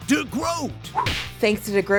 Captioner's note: punch!